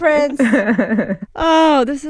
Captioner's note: laughter